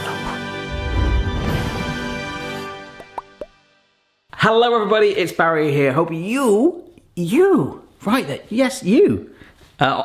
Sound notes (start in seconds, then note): 2.9 popping sounds